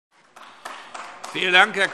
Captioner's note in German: Beifall AfD